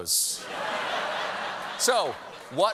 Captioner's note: laughter